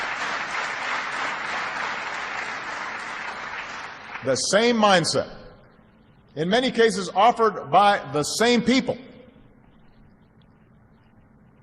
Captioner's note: applause